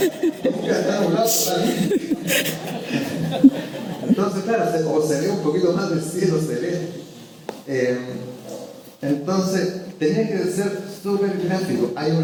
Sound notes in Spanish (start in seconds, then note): 1.4 risas